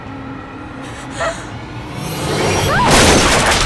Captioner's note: gasping; shouting; wood clattering